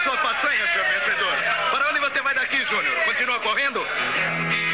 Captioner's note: chattering